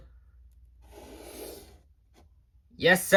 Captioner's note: silence